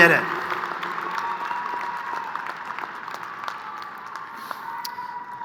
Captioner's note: crowd applauding